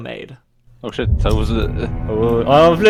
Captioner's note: boom